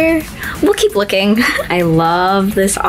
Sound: laughs

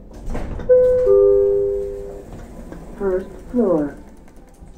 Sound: chime

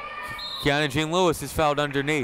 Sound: whistle blowing

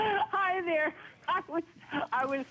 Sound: laughter; laughter

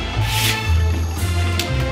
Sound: shoe scraping; dramatic music continues

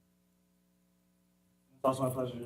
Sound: audio drops

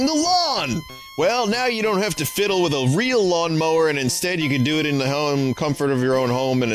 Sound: 90s announcer voice; drops voice

